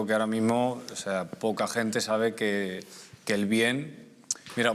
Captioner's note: clicking his tongue